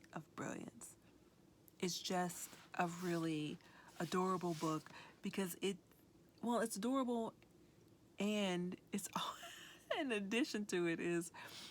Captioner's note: chuckles